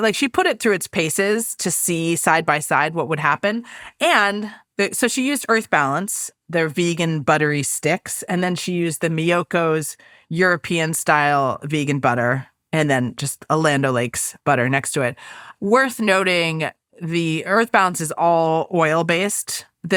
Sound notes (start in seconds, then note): none